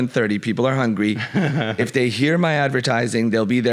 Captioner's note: laughs